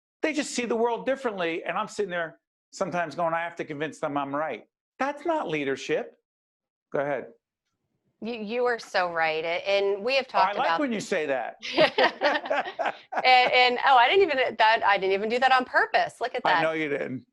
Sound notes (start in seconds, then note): 11.6 both laughing